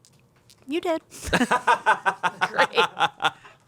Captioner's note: laughs